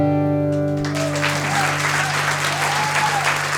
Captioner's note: applause